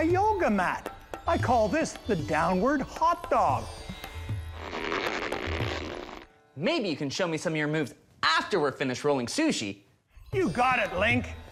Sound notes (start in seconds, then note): 4.5 body straining noise